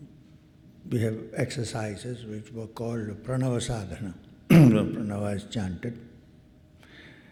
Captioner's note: clears throat